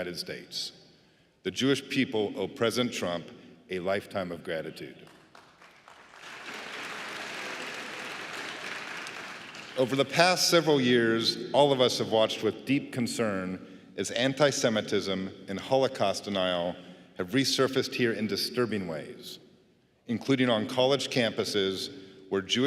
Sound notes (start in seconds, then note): 9.4 applause